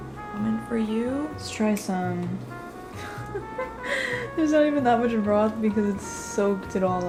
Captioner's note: laughs